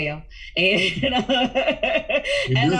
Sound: laughs

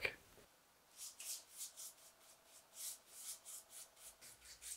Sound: brush whisking

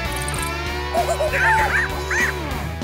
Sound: monkey noises

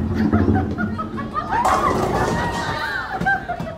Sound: laughter, cheering

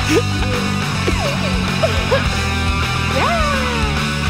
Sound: all laughing; Squib laughs

